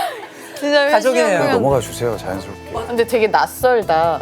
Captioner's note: whining